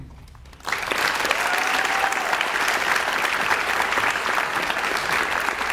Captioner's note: audience cheers and applauds